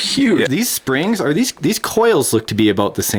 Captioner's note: voiceover